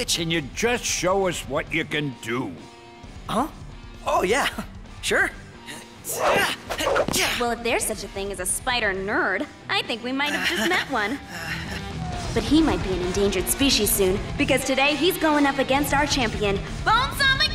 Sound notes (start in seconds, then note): 6.0 grunts